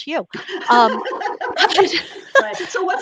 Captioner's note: laughs